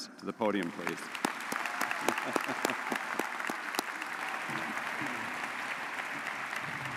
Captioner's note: audience cheering and applauding